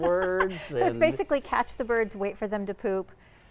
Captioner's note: laughing